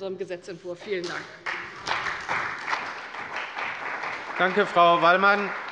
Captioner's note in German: Beifall bei der CDU und dem BÜNDNIS 90/DIE GRÜNEN